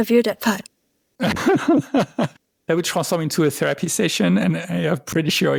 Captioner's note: laughter